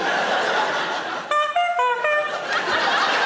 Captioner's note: horn honks; audience laughs